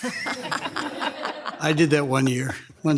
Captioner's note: people laughing